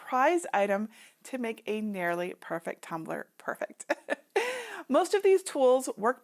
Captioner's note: chuckling